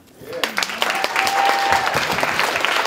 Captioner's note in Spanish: Aplausos